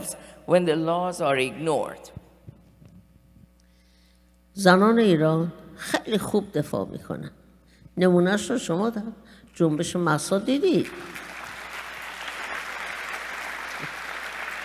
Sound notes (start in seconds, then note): 4.1 speaking persian; 10.8 applause